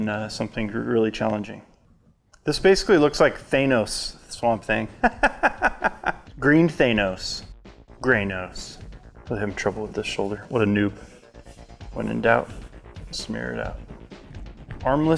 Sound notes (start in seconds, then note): 5.0 laughs